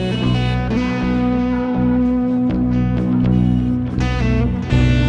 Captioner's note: car horns honk